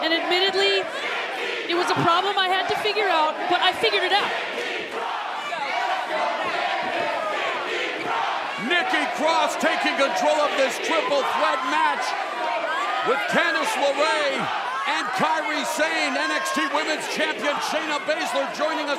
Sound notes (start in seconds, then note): 4.9 fans chanting